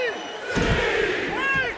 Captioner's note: crowd yells "c"